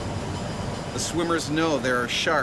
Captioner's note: voiceover